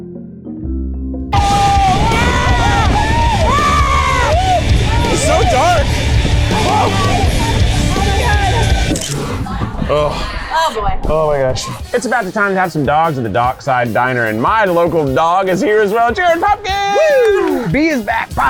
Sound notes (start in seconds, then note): 1.3 screaming; 8.9 camera clicks